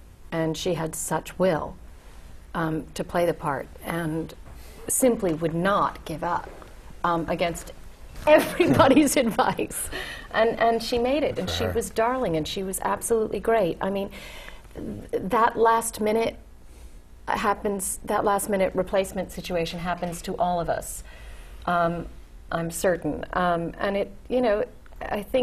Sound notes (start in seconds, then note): 7.7 laugh